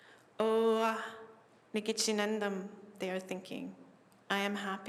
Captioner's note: non-english speech